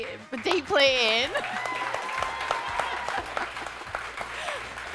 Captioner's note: audience cheering